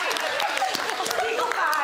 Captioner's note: laughter, clapping